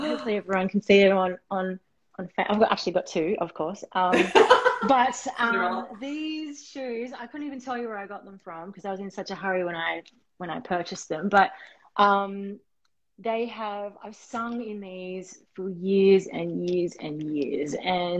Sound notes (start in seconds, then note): 4.1 laughter